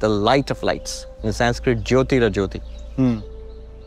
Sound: speaking in foreign language

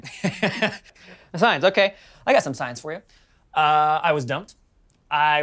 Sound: laughs

